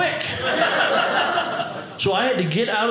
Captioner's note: audience laughing